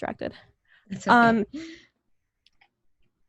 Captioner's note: laughs